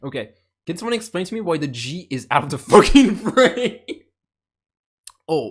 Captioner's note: laughter